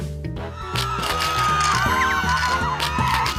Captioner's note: screaming, fearful noises